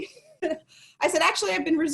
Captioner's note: chuckles